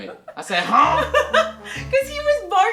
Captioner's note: laughs